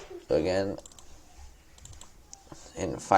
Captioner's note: clicking